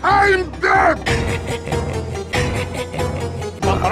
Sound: engineer laughs in rhythm with the background music

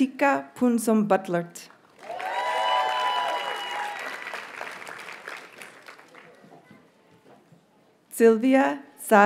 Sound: audience cheers and applauds

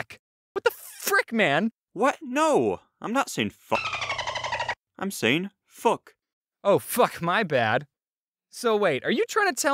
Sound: dolphin noise

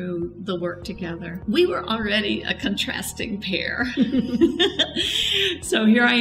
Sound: laughing

